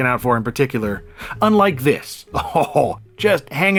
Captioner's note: laughs